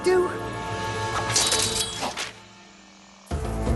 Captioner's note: clank